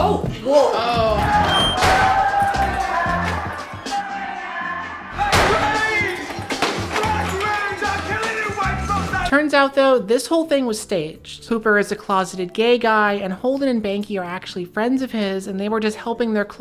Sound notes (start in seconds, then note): 0.1 gun clicks; 5.7 crowd screaming